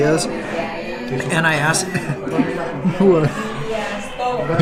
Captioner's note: laughs